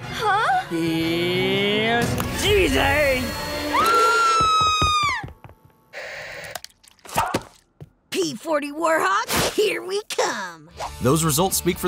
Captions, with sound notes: Here's CJ. [screaming] P-40 Warhawk, here we come. Those results speak for themselves